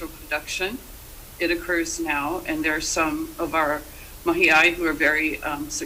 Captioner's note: speaks Hawaiian